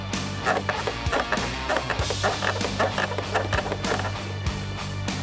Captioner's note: fence creaking